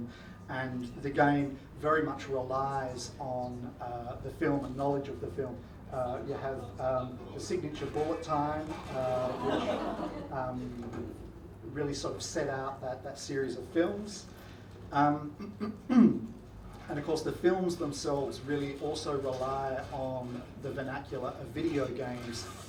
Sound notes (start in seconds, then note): 8.8 audience laughs